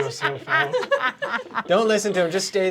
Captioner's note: everyone laughing